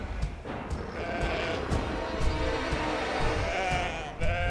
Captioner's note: sheep bleating